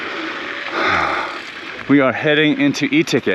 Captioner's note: bike wheel skirts